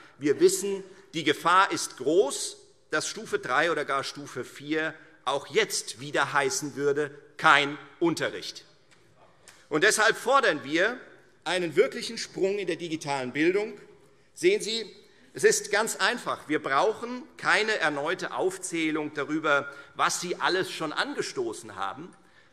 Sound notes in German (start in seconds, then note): none